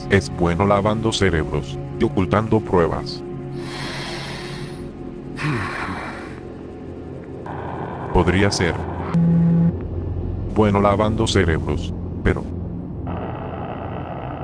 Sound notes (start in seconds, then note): 5.3 sigh